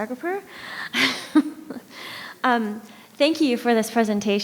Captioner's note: laughs